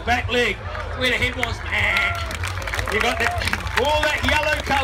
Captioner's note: crowd applauds